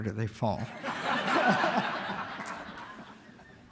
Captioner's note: laughter